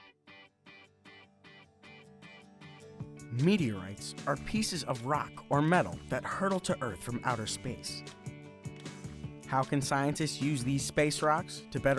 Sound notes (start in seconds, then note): 0.2 upbeat music; 3.6 voiceover